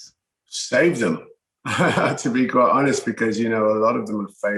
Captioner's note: laughs